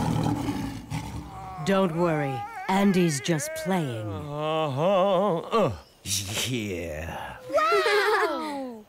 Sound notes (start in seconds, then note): 4.6 humming